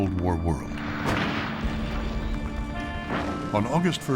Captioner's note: explosion pounds